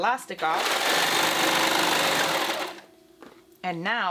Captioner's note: machine clanking